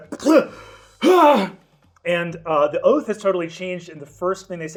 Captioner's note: gasps